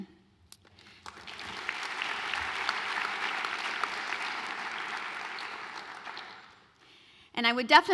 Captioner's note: applause